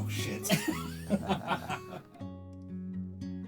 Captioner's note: laughter